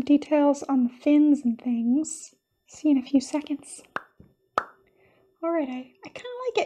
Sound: pop!

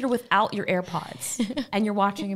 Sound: laughing

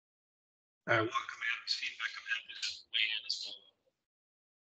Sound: voice muffling

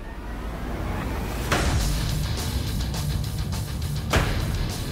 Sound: blade impacts

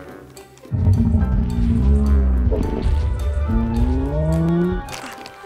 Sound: stegosaurus rumbles

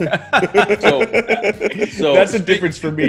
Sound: laugh

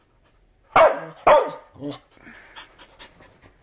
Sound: barking & grunting

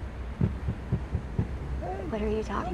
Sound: banging

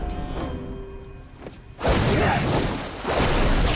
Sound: grunting

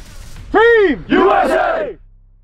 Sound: yelling

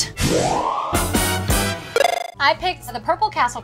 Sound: game sounds

